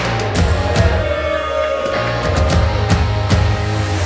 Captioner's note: cheering